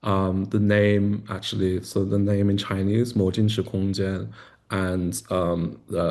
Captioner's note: non-english speech